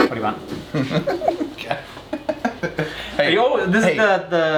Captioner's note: laughing